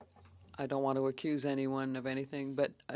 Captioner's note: speaking French